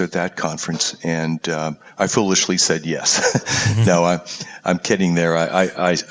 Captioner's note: laugh